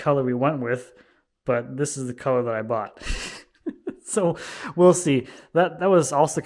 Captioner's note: laughs